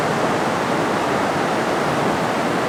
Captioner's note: none